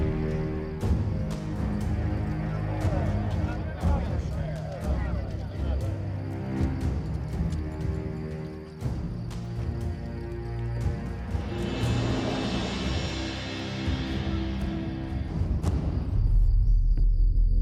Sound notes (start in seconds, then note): 4.7 indistinct chatter; 7.1 intense music